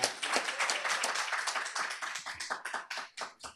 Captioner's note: applause